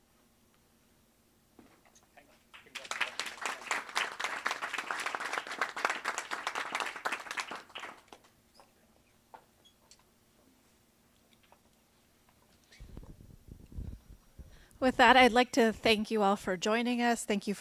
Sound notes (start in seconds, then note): 2.5 audience applauds